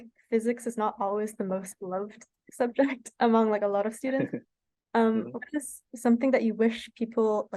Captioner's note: laughs